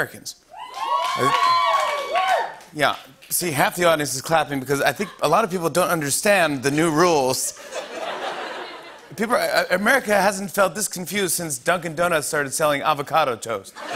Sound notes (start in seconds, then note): 0.6 scattered cheers and applause; 7.6 laughter